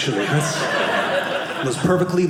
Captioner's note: audience laughing